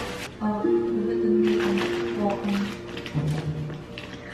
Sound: background tv

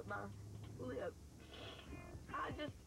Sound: sniffles

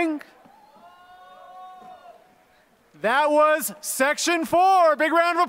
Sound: applause

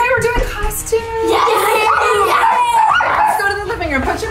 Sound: dog barking

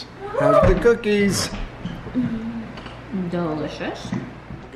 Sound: murmurs

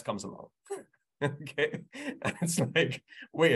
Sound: laughs

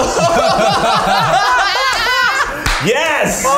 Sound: laughter

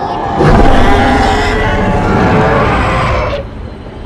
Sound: dino roars

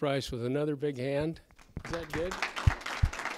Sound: applause

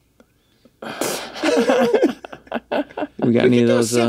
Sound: all laugh

